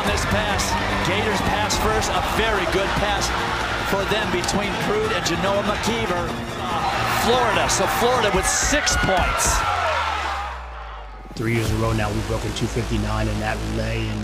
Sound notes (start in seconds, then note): 9.2 crowd cheering